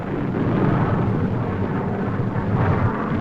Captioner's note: booming